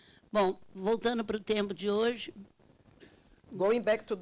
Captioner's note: speaking Portuguese